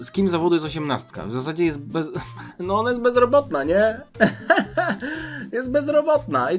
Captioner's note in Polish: śmiech